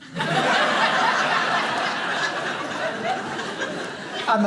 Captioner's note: audience laughing